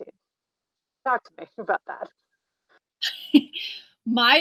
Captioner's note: chuckles